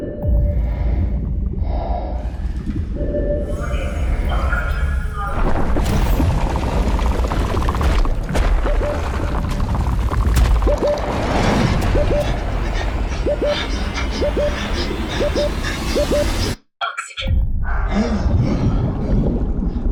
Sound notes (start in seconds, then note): 0.6 heavy breathing; 6.2 loud rumbling; 11.5 music intensifying; 12.2 panting; 18.2 gasping